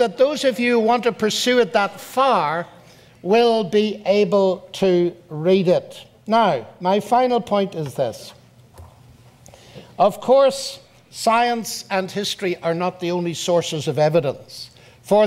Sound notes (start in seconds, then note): none